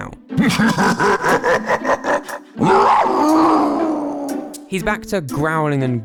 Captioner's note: growling noises